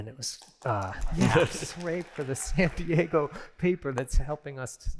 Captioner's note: applause